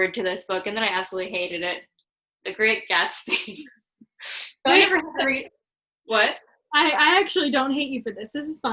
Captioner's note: murmrs